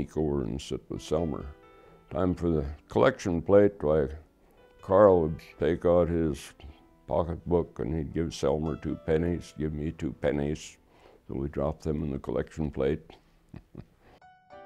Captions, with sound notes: Time for the collection plate, why Carl would take out his pocketbook and he'd give Selmer 2 pennies, give me 2 pennies, so we drop them in the collection plate. [chuckle]